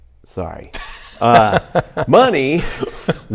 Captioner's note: laughs